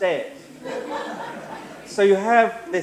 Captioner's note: laughter